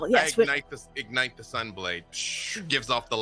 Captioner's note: imitates magic effects